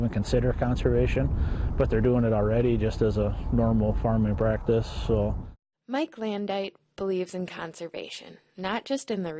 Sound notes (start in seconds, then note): 6.1 voiceover